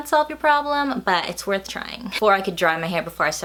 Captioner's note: laughs